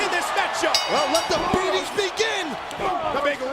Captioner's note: bell dings